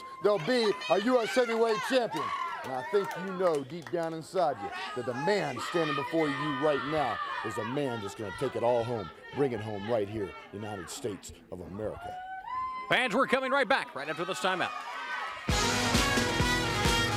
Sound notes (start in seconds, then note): 12.0 crowd cheering